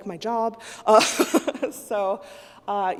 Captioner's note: laughs